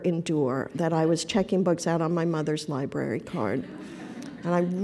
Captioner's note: laughter